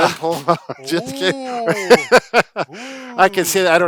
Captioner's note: laughing